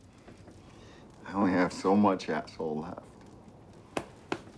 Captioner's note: none